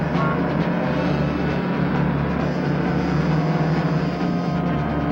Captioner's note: truck engine whirring; suspenseful music